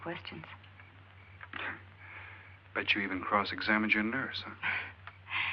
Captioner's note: chuckles